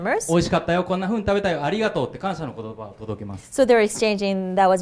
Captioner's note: speaking foreign language